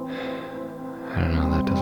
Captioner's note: sigh